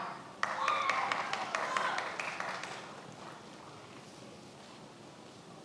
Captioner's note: many applauding